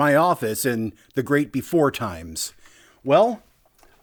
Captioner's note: none